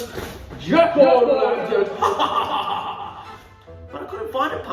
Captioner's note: evil laugh